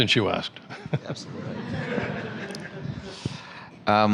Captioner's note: laughter